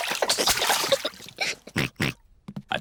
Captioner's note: oinks